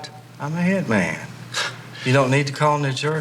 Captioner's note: laughs